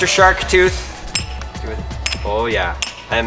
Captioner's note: hatched clinking against tooth